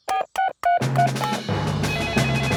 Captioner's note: beeping; phone ringing